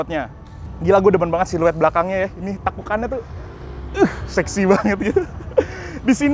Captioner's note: laughing